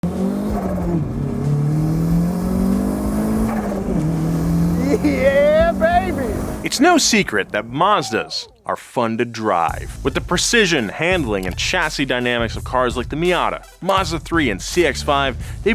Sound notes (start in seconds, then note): 0.0 car engine revving